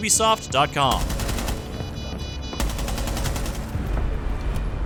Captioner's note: gunfire